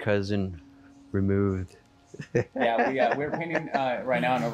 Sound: laughs

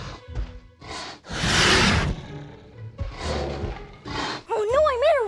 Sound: dinosaur snarling

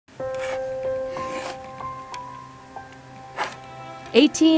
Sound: soft music; scraping

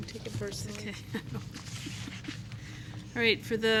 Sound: laughing

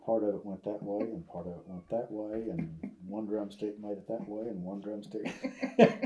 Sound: laughter

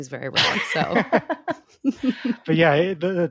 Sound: laughing

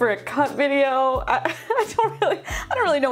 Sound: laughing

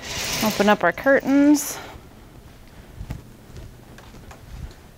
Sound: metal screeching

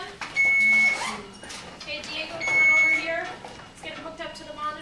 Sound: machines beeping

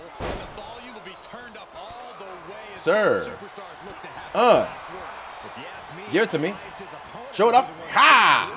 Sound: applause

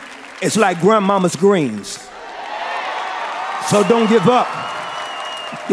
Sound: cheering and applause

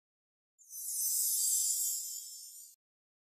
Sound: sparkling chimes

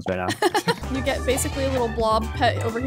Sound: laughing amusingly

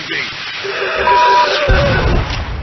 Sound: screaming

